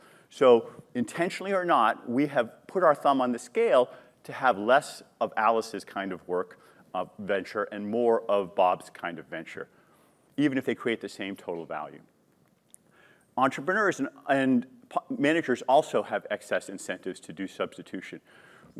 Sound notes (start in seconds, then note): none